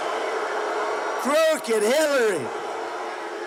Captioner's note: crowd booing